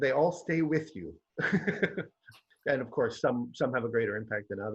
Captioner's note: laughs